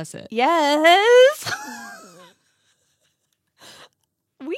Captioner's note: laughs